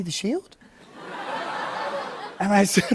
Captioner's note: laughter